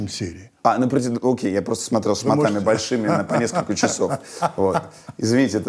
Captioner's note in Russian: Познер смеется